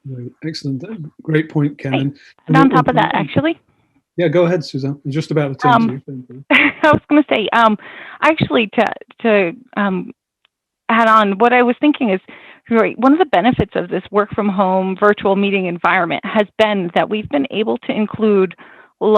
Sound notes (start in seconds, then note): 4.2 laughs